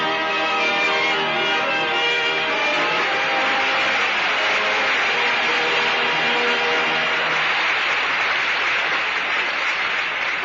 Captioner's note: applause